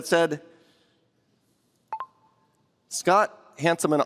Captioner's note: computer chirps